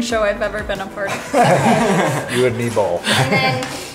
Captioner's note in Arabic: مجموعة تضحك